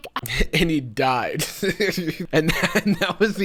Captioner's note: laughs